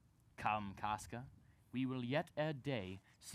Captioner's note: none